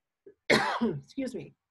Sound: coughs

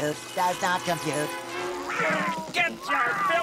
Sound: meowing

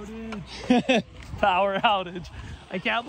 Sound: laughing

